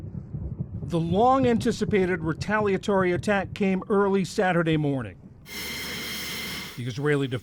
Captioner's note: voice-over